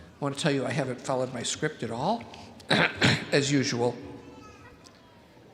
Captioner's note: coughs